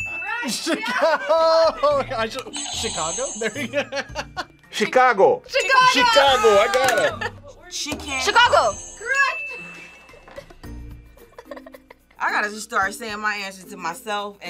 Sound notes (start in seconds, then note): 2.5 buzzer rings; 4.3 laughs; 8.3 buzzer rings; 11.2 laughs